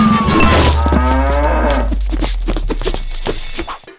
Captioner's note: hooves clop; cow moos